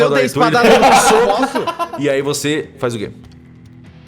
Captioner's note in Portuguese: Pow